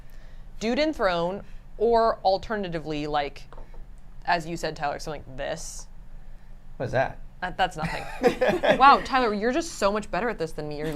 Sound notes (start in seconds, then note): 7.8 laughs